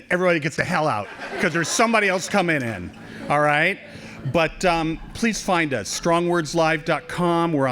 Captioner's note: laughing